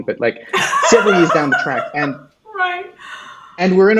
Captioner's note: laughs